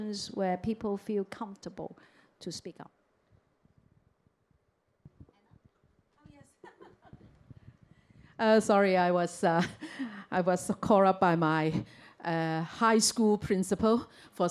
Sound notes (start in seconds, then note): 6.6 chuckles